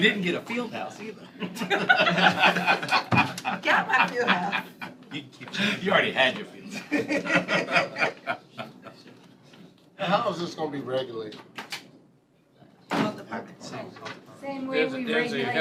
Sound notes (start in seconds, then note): 3.1 laughter